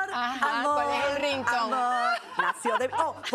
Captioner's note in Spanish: risas